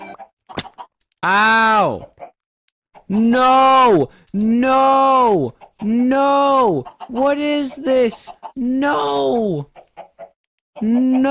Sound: sad violin music; splat

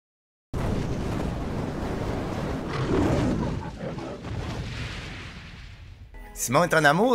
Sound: fire sound and lion roar

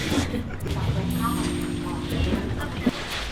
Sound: elevator's ding

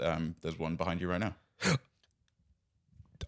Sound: gasps

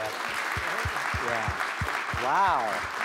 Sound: applause

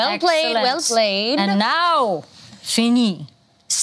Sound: speaking in foreign language

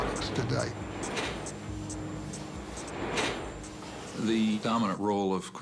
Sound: machinery clanking

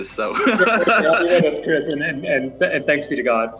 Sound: laughs

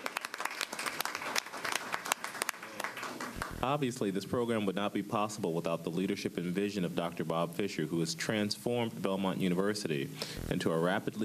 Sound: applause

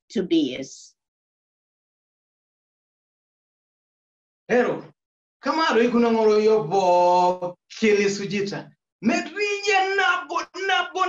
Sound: opens speech in Maasai

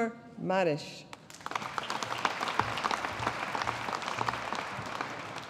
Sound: audience applauding

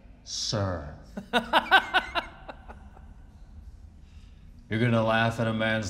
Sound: warden laughing

